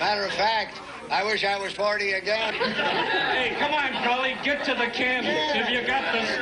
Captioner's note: laughter